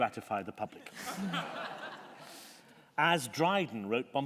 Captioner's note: laughter